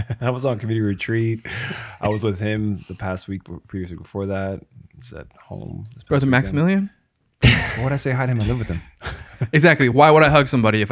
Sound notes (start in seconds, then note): 9.2 laughs